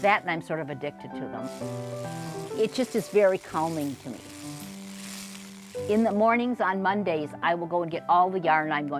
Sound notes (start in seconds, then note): 1.4 machine cranking sound